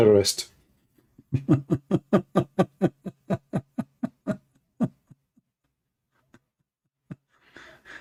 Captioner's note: Ketawa